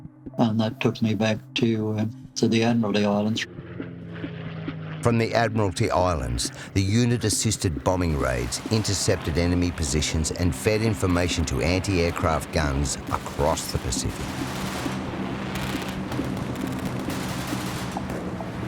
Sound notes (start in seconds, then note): 12.9 machine gun fire